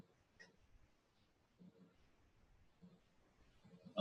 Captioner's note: pause